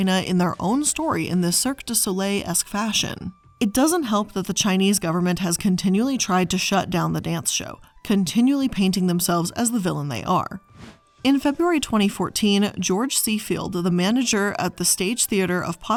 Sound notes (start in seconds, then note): 10.7 air whooshing